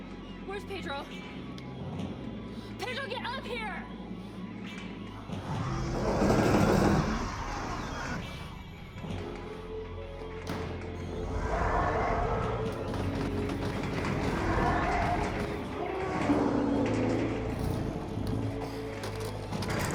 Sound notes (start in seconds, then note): 4.5 dramatic music; 5.3 roars